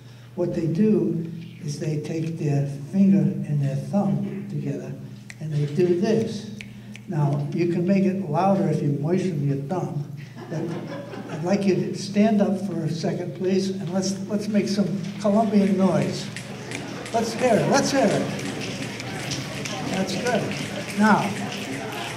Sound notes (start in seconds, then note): 6.5 snaps fingers; 10.2 audience laughter; 15.1 crowd snaps fingers